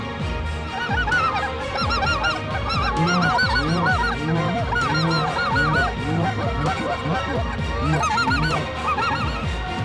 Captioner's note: goose calls